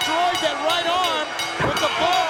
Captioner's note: bell ringing